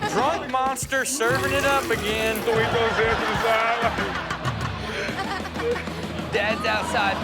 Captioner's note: man mimics vomiting; all laughing